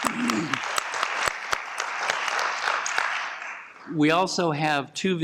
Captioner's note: applause